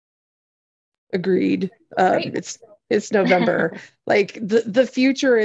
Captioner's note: laughs